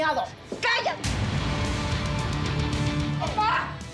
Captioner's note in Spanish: bofetada